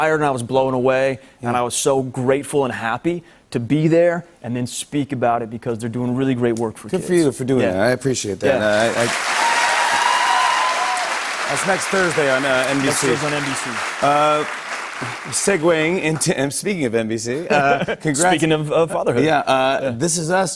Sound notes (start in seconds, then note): 8.8 cheers and applause